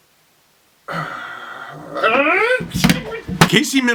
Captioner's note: sighs and then begins a scream